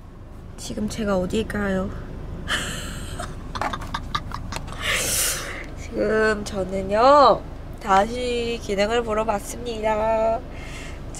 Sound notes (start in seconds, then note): 3.4 laughing